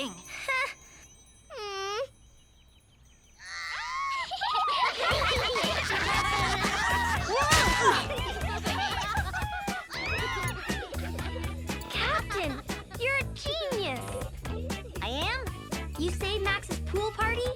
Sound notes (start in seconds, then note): 0.2 Max whines; 3.4 children cheering and laughing; 5.8 body thuds